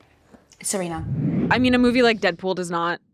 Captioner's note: screen whooshing